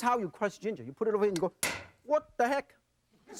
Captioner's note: banging